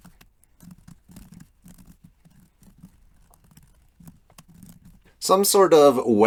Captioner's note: typing